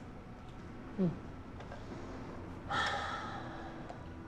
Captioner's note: sigh